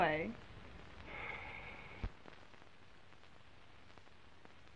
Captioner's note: sighs